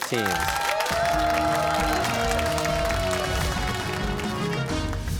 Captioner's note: cheers and applause